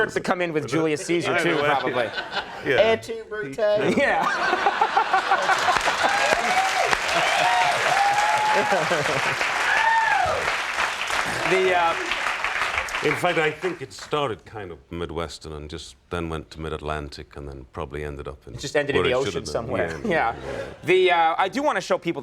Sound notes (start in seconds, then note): 5.5 laughter